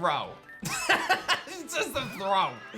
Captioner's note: laughs